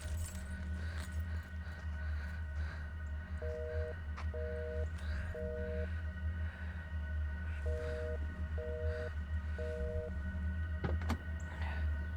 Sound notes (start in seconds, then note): 4.3 phone beeping